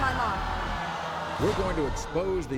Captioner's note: audience gasps